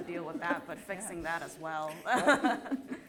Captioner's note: laughter